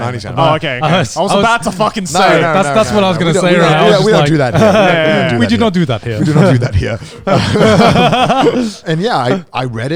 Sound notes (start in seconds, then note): 6.1 everyone laughs